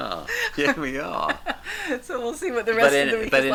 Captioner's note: laughing